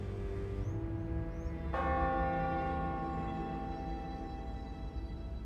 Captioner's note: church bell ringing